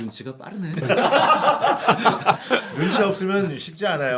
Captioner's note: laughing